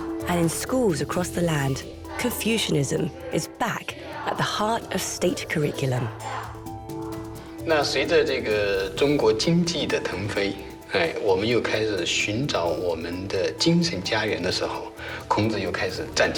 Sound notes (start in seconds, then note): 7.8 hablan un idioma extranjero